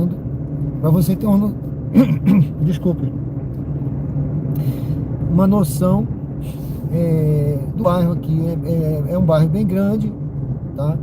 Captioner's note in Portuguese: limpando a garganta